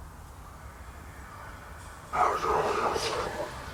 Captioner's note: city noise; dissonant whispers